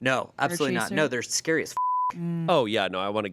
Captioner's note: beep